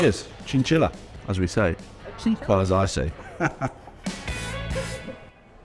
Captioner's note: laughs